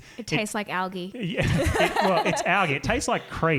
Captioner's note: laughing